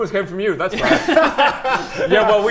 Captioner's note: amnesiac giggles